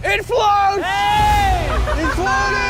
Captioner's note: cheering